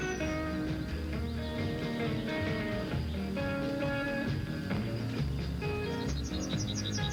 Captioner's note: birds chirping